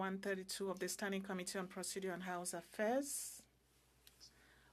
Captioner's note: speaking French